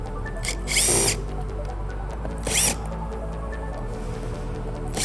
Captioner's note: screwdriver squealing